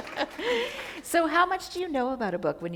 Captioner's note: chuckle